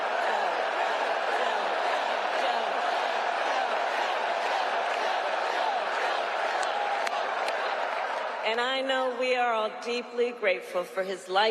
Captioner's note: cheers and applause; crowd chanting